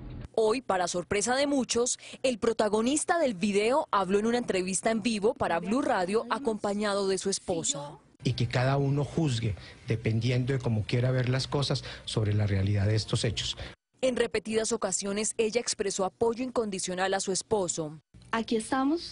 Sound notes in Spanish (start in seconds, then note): 5.7 conversación en pantalla